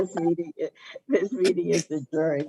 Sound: laughing

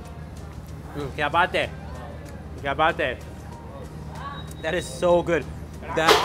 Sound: speaks in foreign language

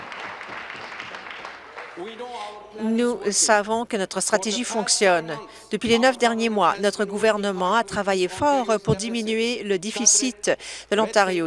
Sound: applause

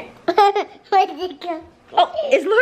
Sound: laughs

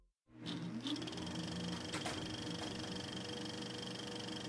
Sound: projector runs

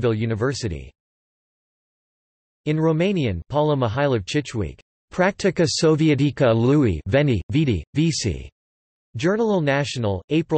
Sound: in Romanian

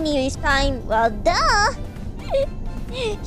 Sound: laugh

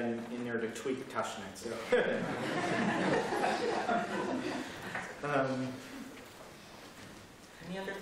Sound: laughter

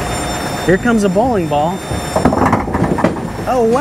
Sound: pins clattering

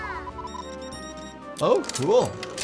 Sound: robot beeping

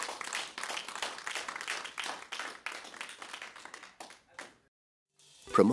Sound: applause

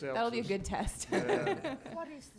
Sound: laughing

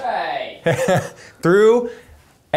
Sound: laughing

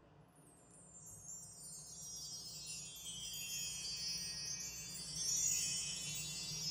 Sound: chimes twinkle

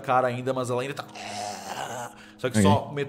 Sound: growls

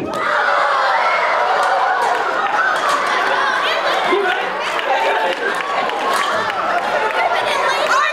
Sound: crowd cheering

